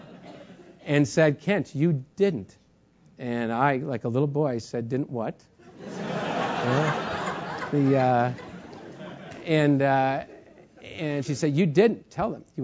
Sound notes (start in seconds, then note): 0.0 laugh; 5.8 laugh